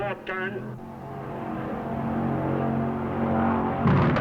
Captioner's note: engine rumbling